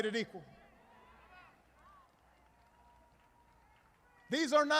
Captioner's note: applause